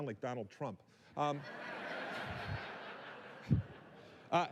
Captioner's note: laughter